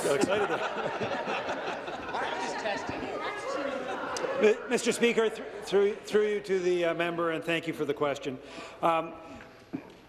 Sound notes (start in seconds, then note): 3.6 laughter